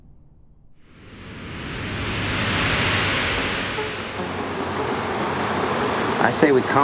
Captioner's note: traffic humming